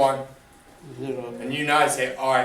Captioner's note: voiceover